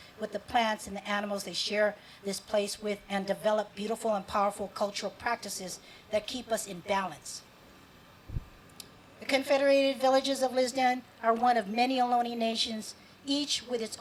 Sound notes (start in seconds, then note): none